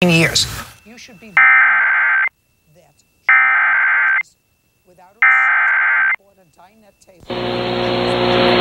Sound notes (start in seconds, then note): 1.2 SAME header tones